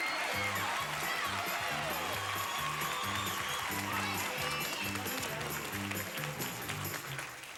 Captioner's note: audience applauding